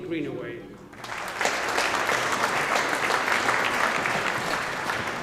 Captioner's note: audience applauding